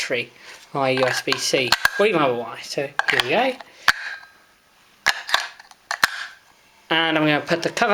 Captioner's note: batteries click in place